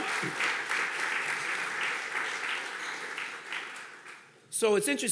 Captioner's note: audience clapping